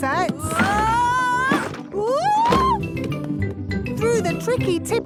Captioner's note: wood teetering